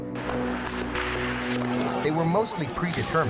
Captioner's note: guns firing